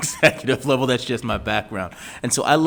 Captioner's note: laughs